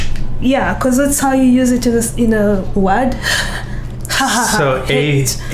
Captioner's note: breathes out an H sound